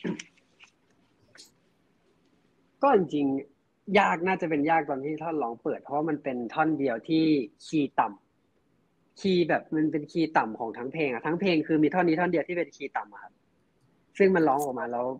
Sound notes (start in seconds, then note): 4.0 answering in Thai